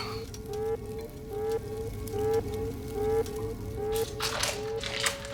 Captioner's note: alarm blaring continues